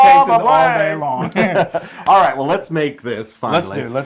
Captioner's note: laugh